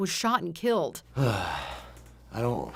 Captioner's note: sighs